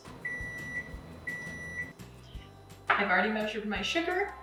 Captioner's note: microwave beeping